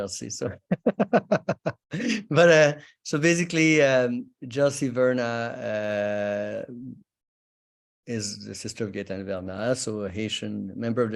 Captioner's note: chuckles